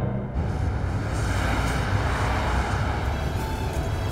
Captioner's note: Vehicles on the road